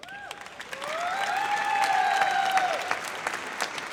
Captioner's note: audience applauds